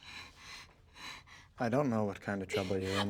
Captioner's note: sobbing continues